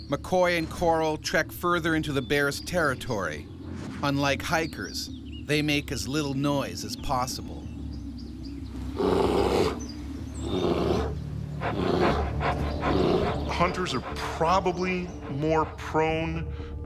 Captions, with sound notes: McCoy and Corle trek further into the bear's territory, unlike hikers, they make as little noise as possible. (bear growling) - Hunters are probably more prone